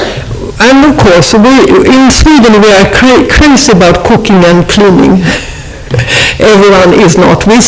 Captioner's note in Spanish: se ríe